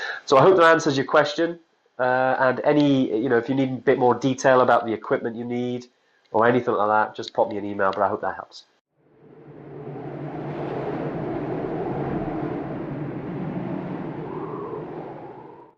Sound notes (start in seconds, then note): 9.0 wind rushing